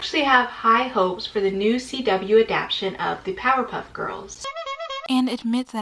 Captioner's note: clown honking